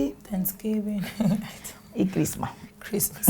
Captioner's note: chuckles